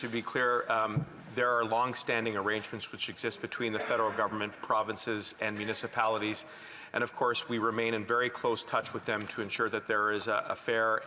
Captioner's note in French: voix de l'interprète